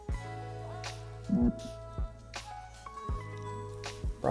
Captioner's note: mumbles underwater